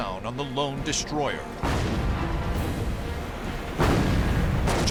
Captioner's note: explosions